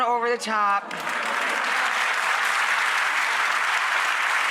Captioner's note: audience applause